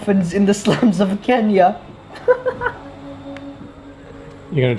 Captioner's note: laughs